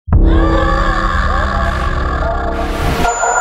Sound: screaming

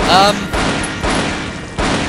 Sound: gunshots

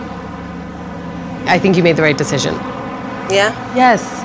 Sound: voiceover

